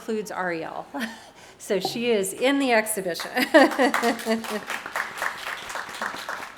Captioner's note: audience clapping